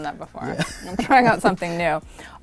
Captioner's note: laughs